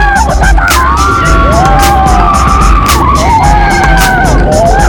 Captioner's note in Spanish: carcajadas